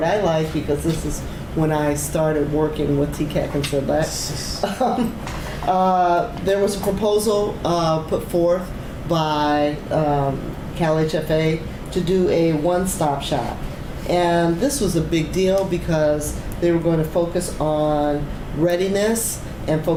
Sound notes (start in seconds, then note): 4.6 laughs